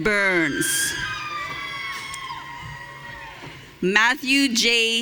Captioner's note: audience cheering